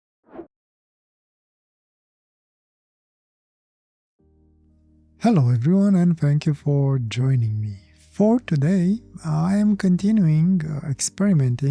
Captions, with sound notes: (air whooshing) Hello everyone and thank you for joining me. For today, I am continuing experimenting